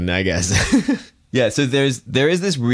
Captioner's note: chuckles